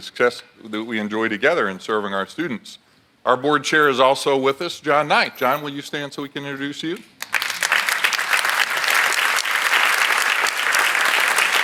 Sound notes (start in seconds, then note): 7.2 audience applauds